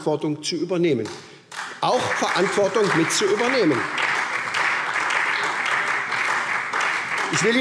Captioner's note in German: Beifall